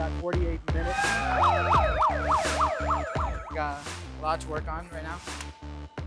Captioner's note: alarm blaring